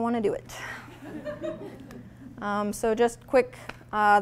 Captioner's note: audience laughing